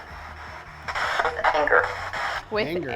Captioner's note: spirit box voice